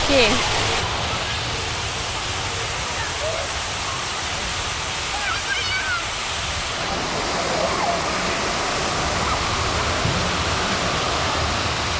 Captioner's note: water noise